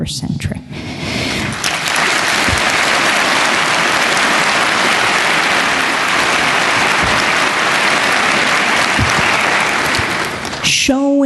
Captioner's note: applause